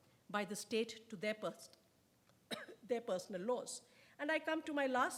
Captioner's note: coughs